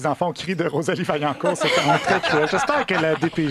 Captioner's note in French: rires